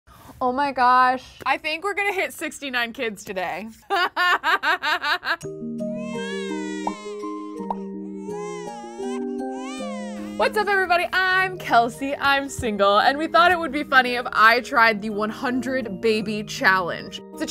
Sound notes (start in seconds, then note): 4.0 laughs; 5.9 baby crying